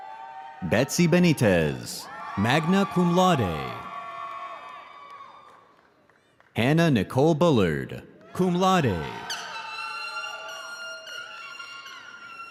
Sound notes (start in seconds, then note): 4.0 audience cheering